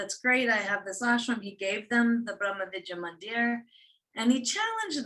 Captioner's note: non-english speech